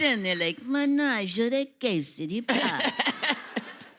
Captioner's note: speaking Italian; audience laughing